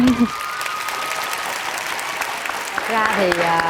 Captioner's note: applause